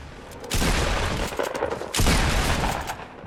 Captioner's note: gun shots